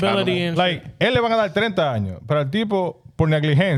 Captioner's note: speaking In Foreign Language